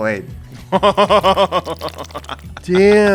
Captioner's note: laughs